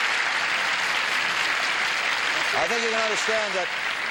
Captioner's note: applause